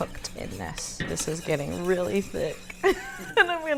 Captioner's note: laughs